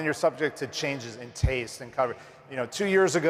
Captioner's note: none